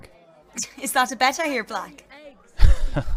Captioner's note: Marlene laughs